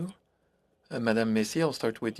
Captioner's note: speaking French